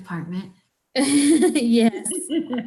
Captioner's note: laughs